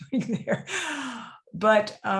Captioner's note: laughs